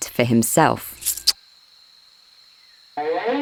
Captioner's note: coins rattling; lips smooching